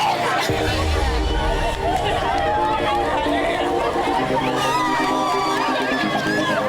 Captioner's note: upbeat music; women cheering